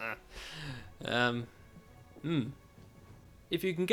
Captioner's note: inhale